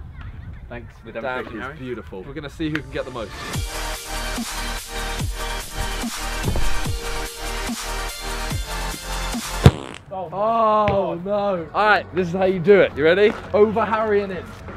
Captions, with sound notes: Thanks for the demonstration... beautiful. We're gonna see who can get the most. *fart sound* Alright! This is how you do it. You ready? Over Harry and in!